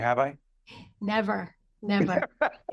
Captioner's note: laughing